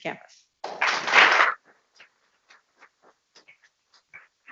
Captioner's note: people clapping